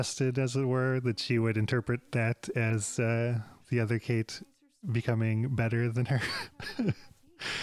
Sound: laughs

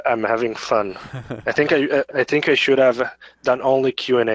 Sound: laughs

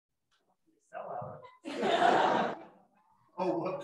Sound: laughter

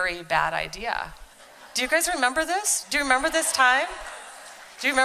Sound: audience agreeing

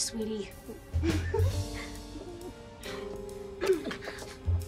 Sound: giggles

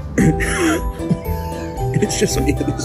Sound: laughs

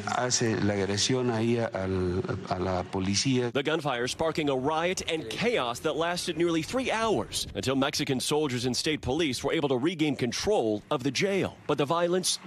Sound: speaking non-english

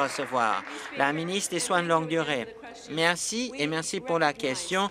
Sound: applause

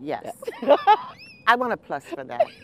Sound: laughter

